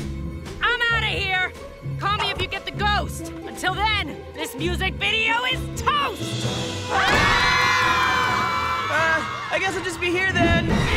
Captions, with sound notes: I'm out of here! Call me if you get the ghost. Until then, this music video is toast! [screaming] Uh, I guess I'll just be here then.